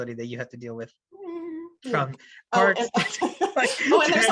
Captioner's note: makes a nervous hum; laughter